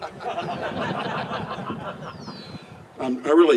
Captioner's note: laugh